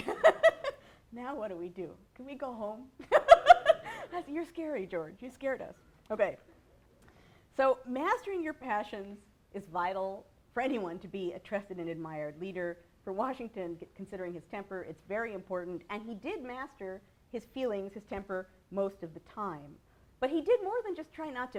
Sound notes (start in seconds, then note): 0.0 laughs; 3.1 laughs